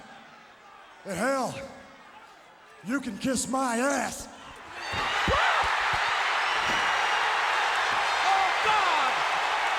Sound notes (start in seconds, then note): 6.2 crowd cheering; 9.5 crowd cheering